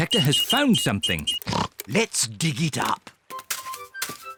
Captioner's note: oinks